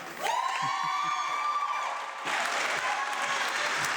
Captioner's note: audience clapping